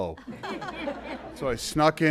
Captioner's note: laughter